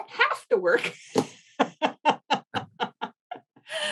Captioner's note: laughs